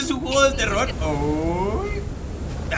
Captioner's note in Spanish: Sorprendido